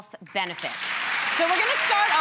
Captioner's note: audience clapping